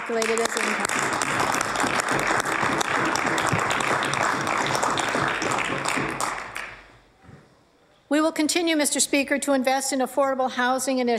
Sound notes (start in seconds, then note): 4.0 applause